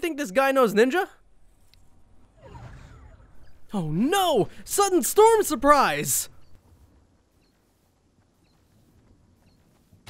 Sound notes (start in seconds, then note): 2.4 game effect plays